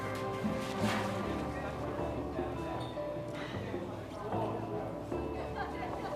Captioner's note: gentle music; group chattering